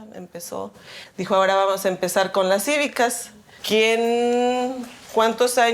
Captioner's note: speaking in Spanish